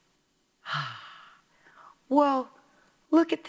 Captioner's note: exhales